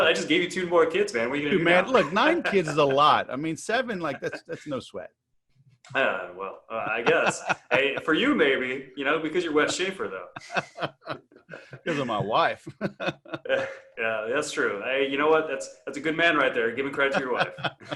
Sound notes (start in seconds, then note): 13.2 laughs